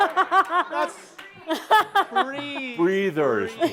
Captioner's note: laughter